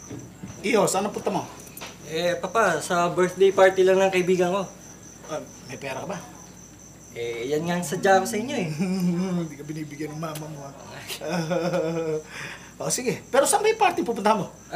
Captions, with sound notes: Son, where are you going? Dad, I'm going to my friend's birthday party. Do you have money? Uh, that's why I came here. [chuckles] Your mom doesn't give you, huh? [laughs] Okay, but where is the party you're going to?